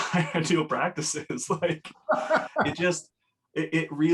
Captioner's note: laughs